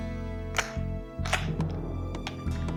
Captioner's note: gun cocking